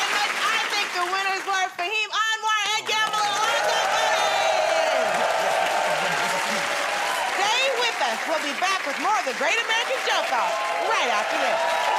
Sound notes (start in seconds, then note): 2.7 cheers and applause